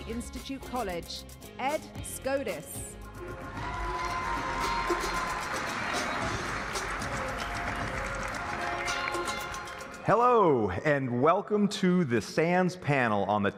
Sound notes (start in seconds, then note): 3.5 applause